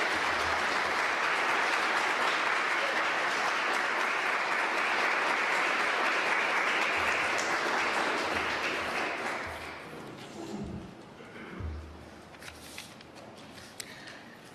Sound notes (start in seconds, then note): 1.9 applause